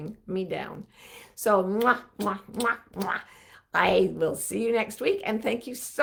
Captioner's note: lips smacking